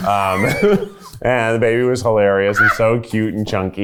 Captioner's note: laughing